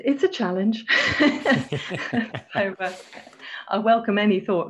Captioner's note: both laughing